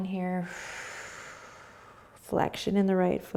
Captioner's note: exhaling